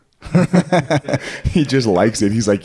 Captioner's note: laughing